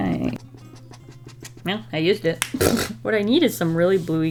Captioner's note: laughs